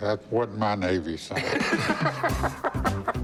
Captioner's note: laughter